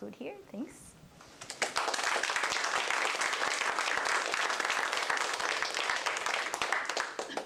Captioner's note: applause